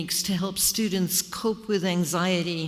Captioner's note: none